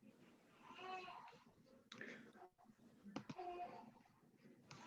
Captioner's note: baby crying